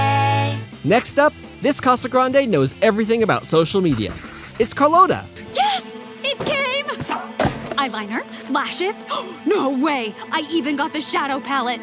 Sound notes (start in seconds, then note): 8.1 gasping